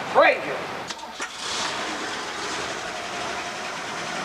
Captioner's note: car engine running